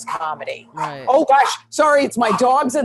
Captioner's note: dogs barking